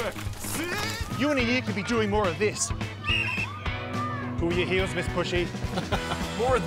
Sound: whistle blows; laughs

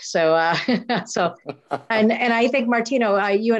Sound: laughs

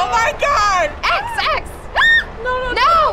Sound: shrieking

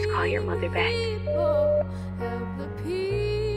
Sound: phone beeps

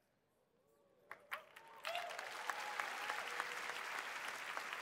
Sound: applause

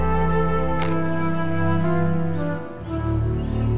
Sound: camera shutter

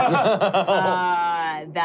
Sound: laughing

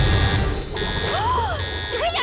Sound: alarm buzzing; dramatic sting; gasps

